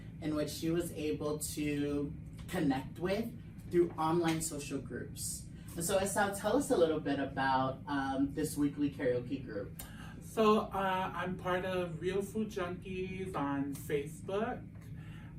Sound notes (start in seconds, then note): none